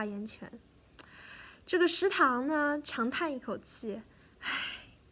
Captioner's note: sigh